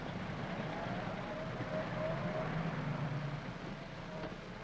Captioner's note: engines rumbling